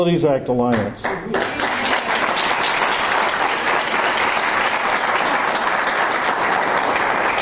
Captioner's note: audience applause